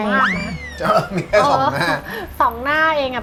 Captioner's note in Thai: หัวเราะ